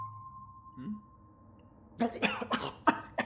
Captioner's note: spit cough